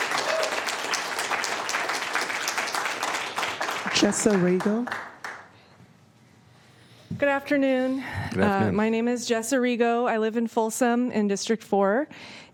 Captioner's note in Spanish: Aplausos